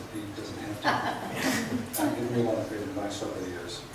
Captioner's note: laughs